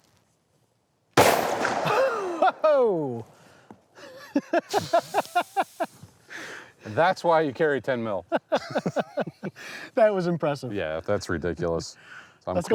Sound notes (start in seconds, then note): 1.2 gun bangs; 4.2 laughing